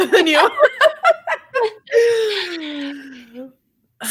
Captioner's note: all laugh